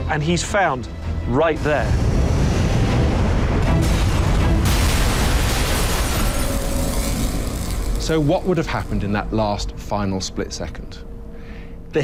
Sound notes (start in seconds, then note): 1.5 loud explosions